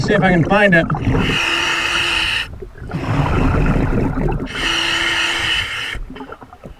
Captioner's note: water burbling; regulator hissing